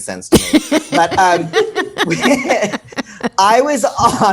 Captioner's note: laugh